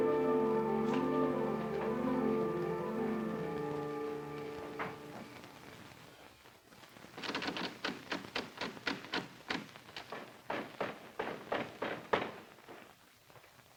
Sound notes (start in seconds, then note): 7.3 door handle rattles; 10.4 knocks